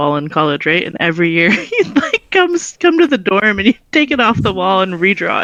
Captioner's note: giggles